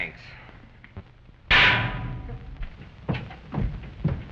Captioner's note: clanging